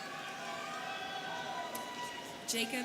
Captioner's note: students cheering